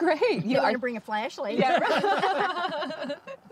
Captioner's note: laughing